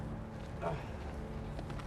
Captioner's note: grunting